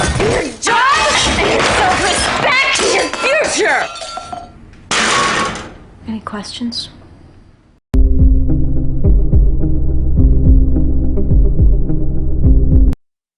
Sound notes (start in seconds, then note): 4.9 clang